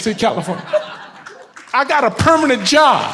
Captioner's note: audience laughs